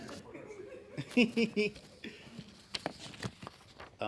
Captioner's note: laughing